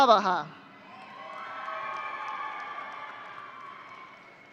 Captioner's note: audience cheering